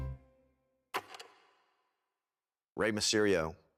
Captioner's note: upbeat playful music; film reel clicks